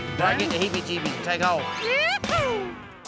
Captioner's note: chattering